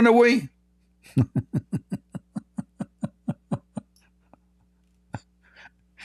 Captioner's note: Ketawa